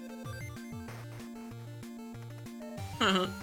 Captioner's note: sigh